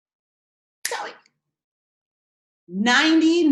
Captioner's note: snaps fingers